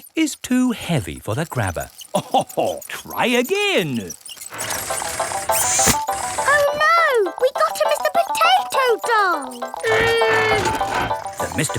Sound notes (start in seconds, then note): 2.1 chuckles